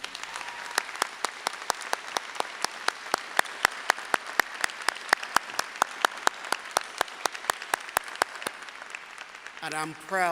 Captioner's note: applause